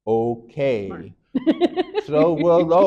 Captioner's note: laughing